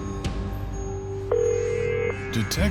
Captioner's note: phone ringing